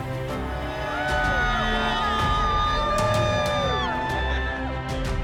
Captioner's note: graduates cheer